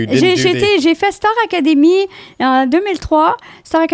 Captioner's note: in french